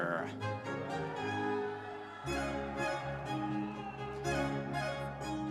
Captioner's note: audience members cheering